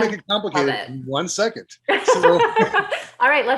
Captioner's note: laughs